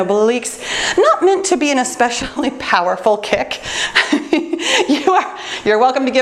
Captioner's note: laughs